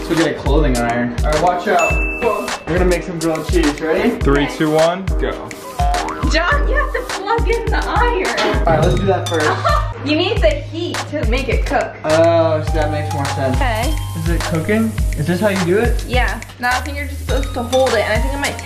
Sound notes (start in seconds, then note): 5.8 boing; 9.4 laughs